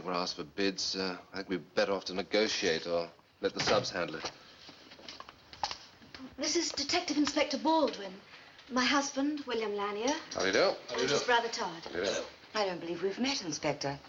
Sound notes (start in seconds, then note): 3.6 door Closes